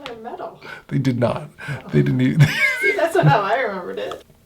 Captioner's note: laughs